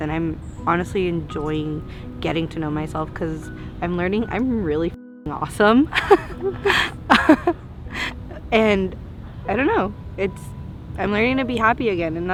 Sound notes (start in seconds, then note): 5.9 laughing